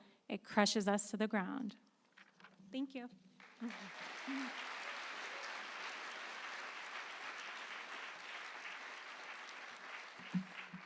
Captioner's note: applause